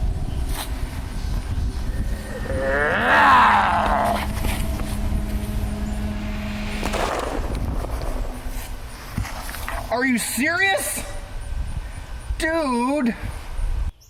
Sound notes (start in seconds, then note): 1.9 zombie growl; 6.6 gunshot